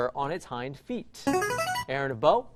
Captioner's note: chiming